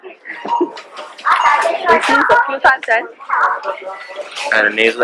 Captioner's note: giggles